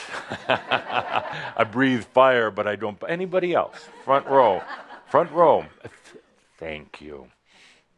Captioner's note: laughter